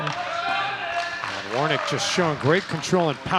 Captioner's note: shouting